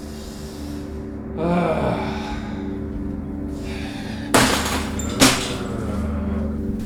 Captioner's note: manny sighs and growls